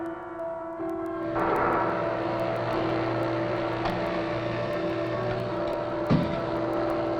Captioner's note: suspenseful music; machines humming